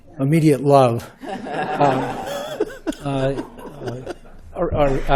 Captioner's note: laughter